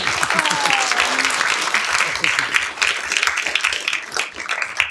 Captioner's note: applause